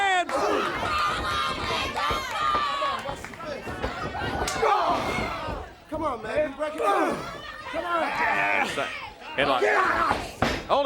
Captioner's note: crowd cheering